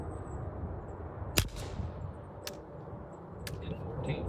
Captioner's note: gun cocks